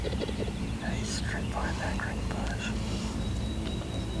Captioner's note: whispering